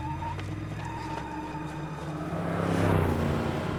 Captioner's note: tires screech